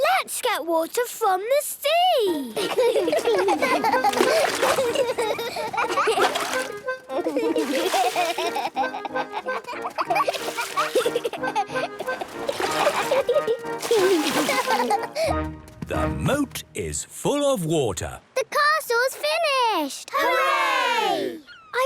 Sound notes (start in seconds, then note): 4.0 excited laughter